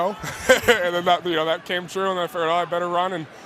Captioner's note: laughs